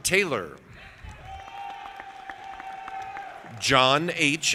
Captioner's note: audience applauding